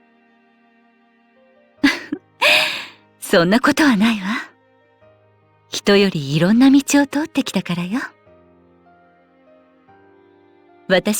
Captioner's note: laugh